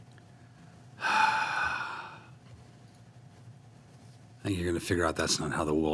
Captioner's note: sighing